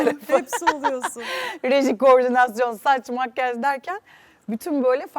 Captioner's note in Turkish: kahkaha